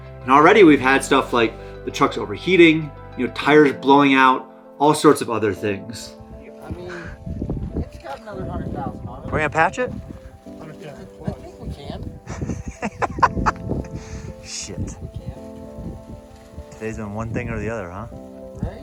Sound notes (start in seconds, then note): 12.2 laughs